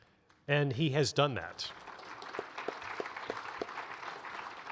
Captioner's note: audience applauds